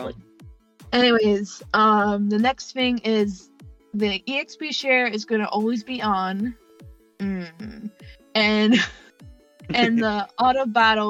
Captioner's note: groans